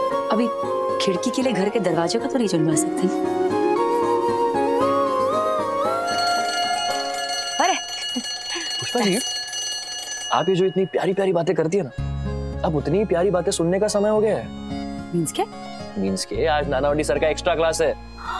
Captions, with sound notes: We can't break the door of our heart to make a window. [background music] [school bell ringing] Here we go. Ms. Pushpa... ...the sweet talks that you do... ...it is now the time to listen to same kind of sweet things. What do you mean? You have Mr. Nanavati's extra class today.